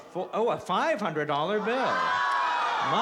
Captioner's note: crowd groans